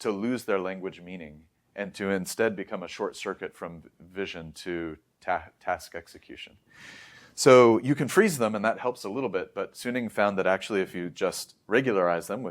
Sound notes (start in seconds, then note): 6.6 inhales deeply